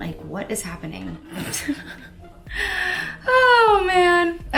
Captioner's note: laughs softly